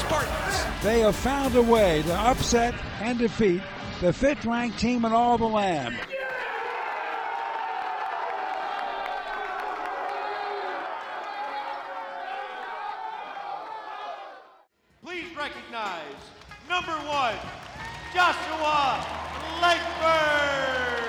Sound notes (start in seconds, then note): 12.0 team cheering; 17.7 applause and cheering